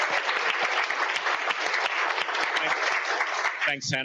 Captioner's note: cheers and applause